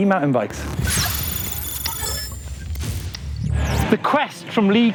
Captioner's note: electronic noises